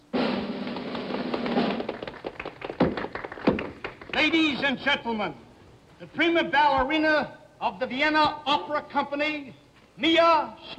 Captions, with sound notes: (drum roll) (applause) - Ladies and gentlemen, the prima ballerina of the Vienna Opera Company, Mia Slavenska!